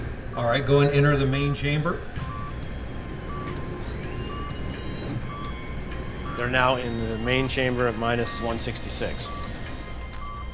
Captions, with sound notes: All right now go ahead and enter the main chamber. [machine beeping and whirring] They are now in the main chamber at minus 166.